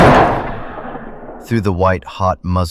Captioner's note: SFX: Shotgun blast